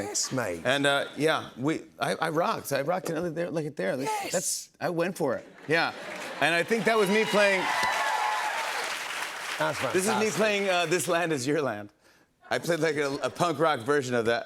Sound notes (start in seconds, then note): 7.6 cheers and applause